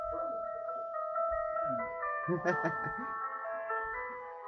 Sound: laughing

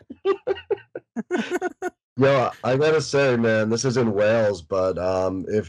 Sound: laughter

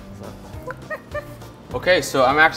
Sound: giggles

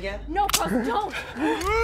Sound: gun click

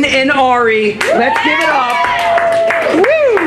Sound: applause; cheering

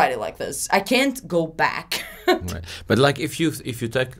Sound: laughs

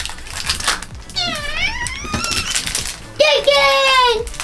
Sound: imitates squeaky door

